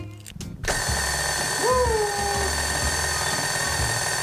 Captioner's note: mixer noise